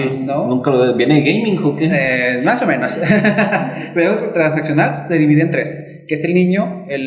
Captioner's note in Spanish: risas